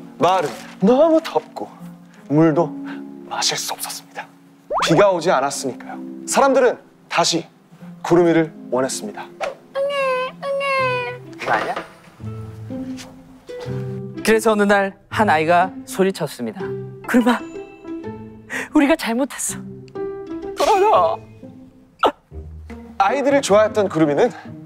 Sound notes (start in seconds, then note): 9.8 crying